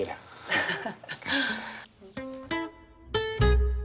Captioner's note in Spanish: Risas